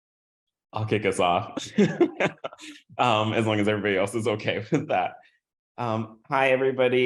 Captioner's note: laugh